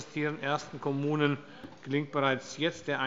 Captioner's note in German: none